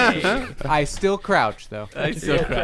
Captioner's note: laughter